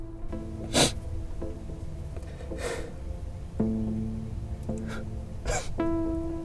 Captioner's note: cries